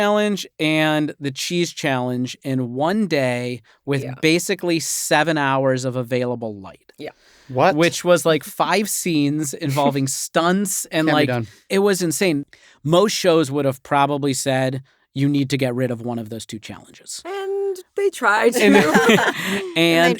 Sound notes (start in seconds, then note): 18.5 laughter